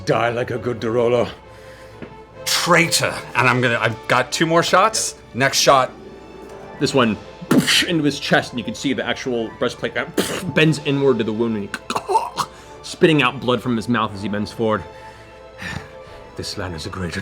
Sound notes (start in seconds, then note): 6.6 gunshot; 11.6 choking noise